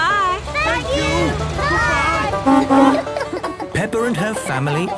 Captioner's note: honking